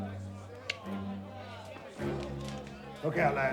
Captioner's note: Malcolm clicking teeth